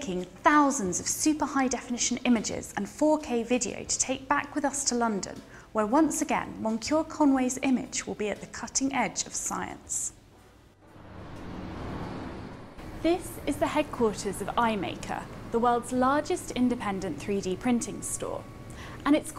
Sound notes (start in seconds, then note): 10.8 traffic noise